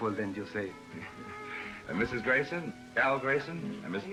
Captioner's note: laughs